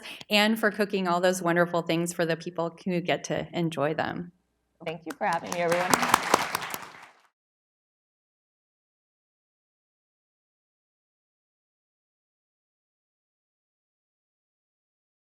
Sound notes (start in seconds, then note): 5.0 applause